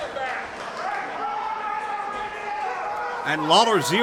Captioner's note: crowd yells